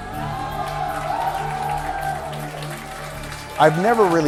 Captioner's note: audience applauding